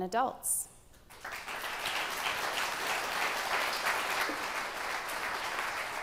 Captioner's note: attendees applauding